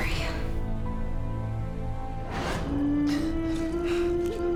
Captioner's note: whispers